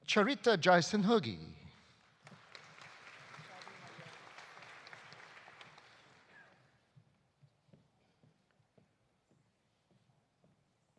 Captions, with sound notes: Charitha Jayasinghege. (audience applauding)